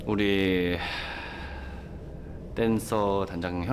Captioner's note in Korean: 깊은 한숨